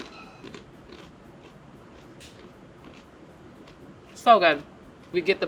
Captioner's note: crunch sounds